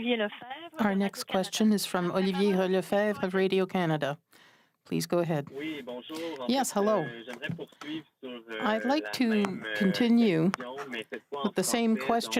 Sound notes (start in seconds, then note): 1.1 speaking French